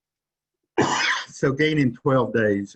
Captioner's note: coughs